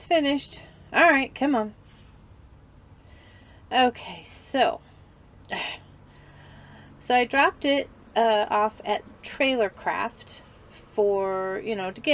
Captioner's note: sigh